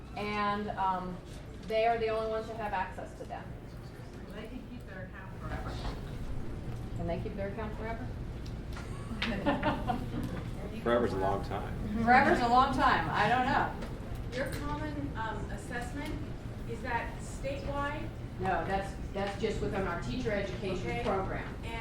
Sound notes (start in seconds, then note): 4.4 voiceover; 8.8 laughs; 10.8 voiceover; 14.5 voiceover